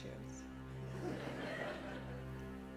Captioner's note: laughter